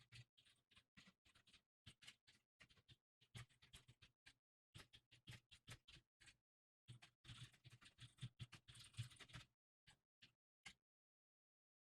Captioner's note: typing sounds